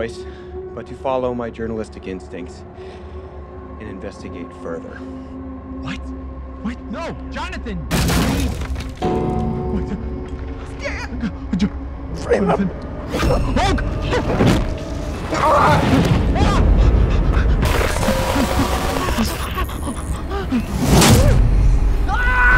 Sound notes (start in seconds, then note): 7.9 wood breaks; 18.5 Stan breathing fast and heavy; 20.3 ax hitting flesh